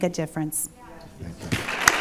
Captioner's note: applause